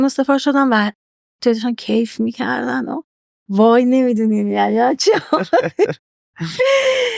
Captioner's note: laughs